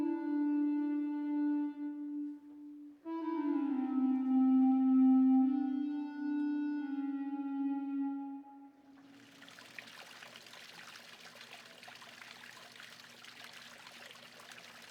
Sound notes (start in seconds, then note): 9.0 water splashing